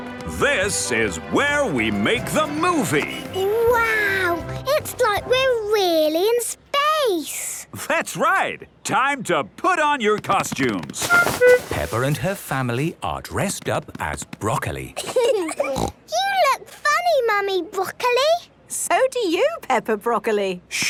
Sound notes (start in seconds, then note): 15.0 laughing, snort